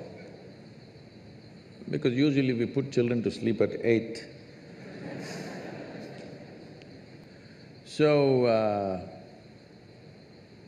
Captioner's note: laughter